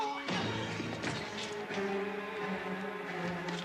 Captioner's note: fist thuds; dramatic music